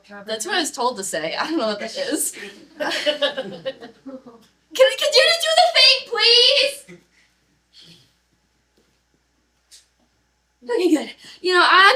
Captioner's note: laughter